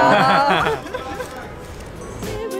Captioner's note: laughter